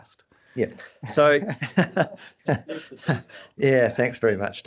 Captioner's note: chuckles